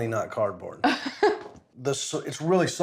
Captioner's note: laughs